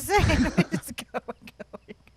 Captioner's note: both laugh